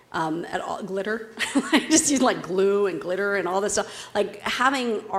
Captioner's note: laugh